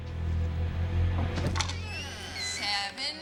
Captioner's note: door creaking